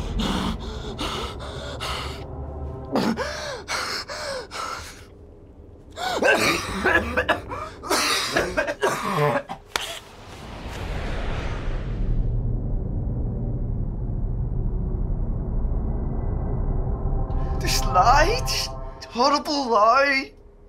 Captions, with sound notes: (intense breathing) (coughing) This lie. This horrible lie.